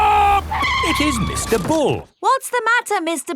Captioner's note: tires screeching